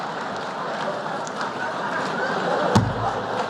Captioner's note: laughter